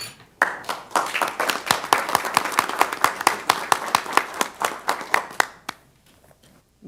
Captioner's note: applause